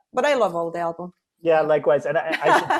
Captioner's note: laughs